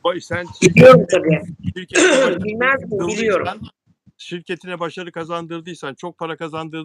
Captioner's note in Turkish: boğazını temizler